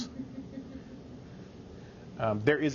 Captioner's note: scattered chuckling